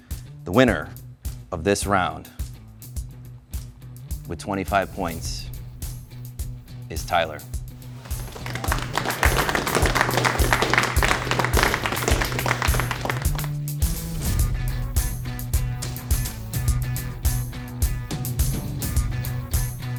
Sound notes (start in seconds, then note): 8.0 applause